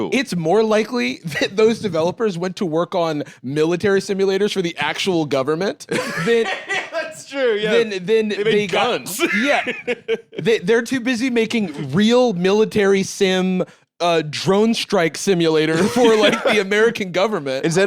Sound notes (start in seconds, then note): 5.9 laughing; 8.4 laughs